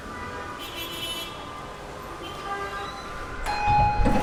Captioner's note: car honking